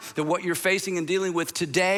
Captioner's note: none